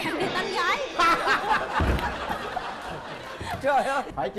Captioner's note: laughing